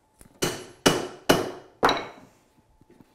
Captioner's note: hammering